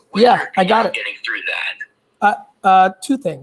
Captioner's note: both chattering